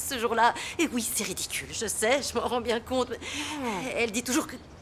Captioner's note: chuckling